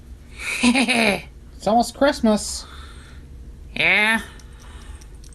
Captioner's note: laughs